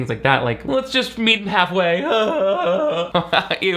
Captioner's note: laughs